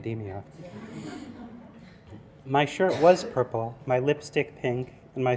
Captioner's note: laugh